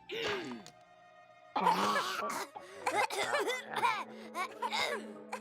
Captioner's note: clears throat; both coughing